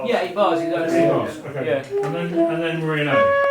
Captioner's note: musicians chattering